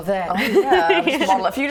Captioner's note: laughing